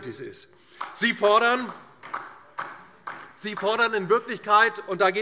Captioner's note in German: Beifall DIE LINKE